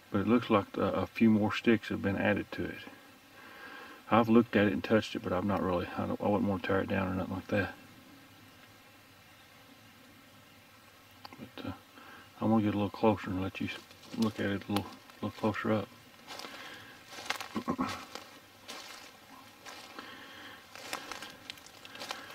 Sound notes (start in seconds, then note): 17.5 throat clearing; 19.5 leaves crunching